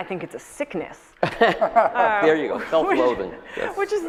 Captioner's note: panelists laugh